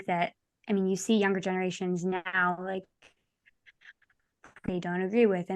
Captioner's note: audio breaks